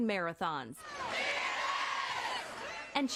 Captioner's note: cheering